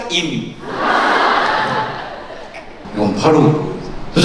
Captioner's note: hehe